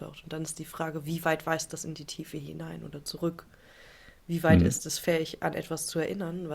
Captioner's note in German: räuspern